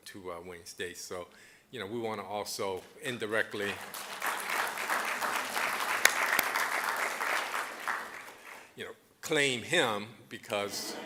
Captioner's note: applause; audience laughing